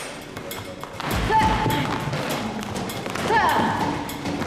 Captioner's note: grunts